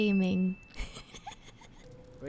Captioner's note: laughs